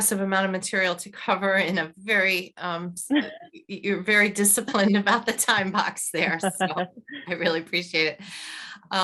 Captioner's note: laughs